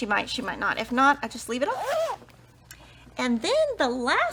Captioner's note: zipper vibrates